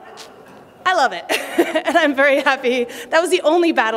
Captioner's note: laughter